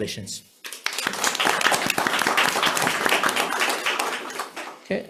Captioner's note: members applauding